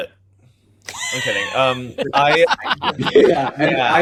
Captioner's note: laughs